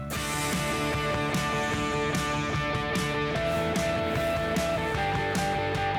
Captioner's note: upbeat music; plane engine